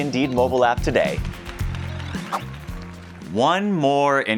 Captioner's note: crowd applauding